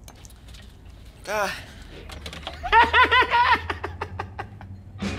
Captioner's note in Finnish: nauraa